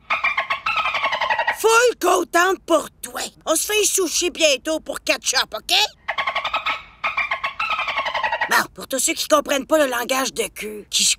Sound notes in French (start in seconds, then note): 0.2 Bruits de Kiska; 5.9 Bruits de Kiska